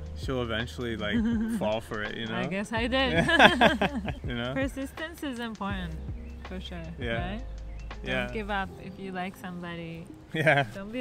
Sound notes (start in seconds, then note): 3.0 می خندد